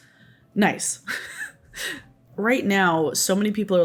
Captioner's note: laughs